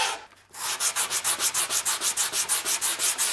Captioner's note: hissing sanding